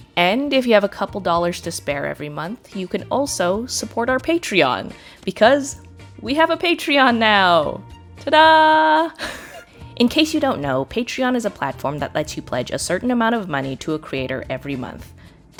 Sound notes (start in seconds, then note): 9.2 chuckles